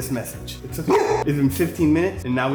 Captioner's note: barking